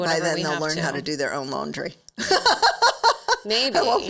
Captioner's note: laughs